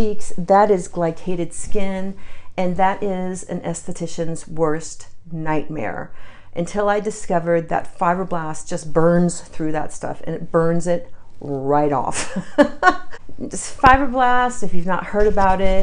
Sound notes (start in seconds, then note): 12.4 laughs